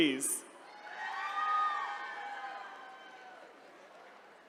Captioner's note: attendees cheering